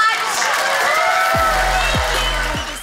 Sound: audience cheers

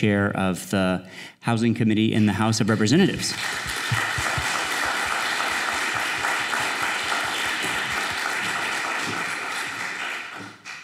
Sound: applause

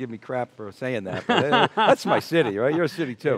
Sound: laughs

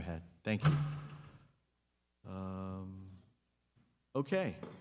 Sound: object clattering

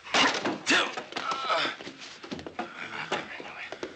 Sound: Bobby groaning

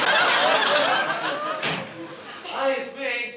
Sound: door opening

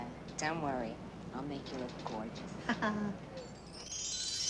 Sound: chuckling

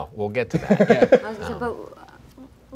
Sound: laughing

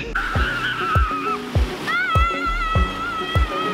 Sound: screaming

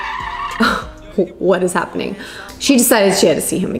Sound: car tires screeching

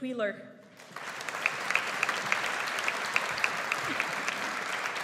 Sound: audience applauds

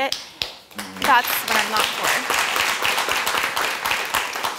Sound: audience applauds

